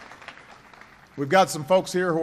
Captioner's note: applause